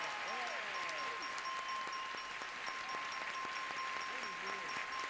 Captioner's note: applause; bell ringing